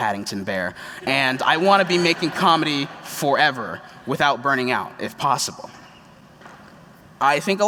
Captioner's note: laughter